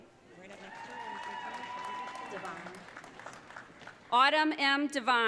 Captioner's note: audience cheering